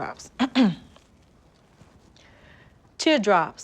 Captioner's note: clears throat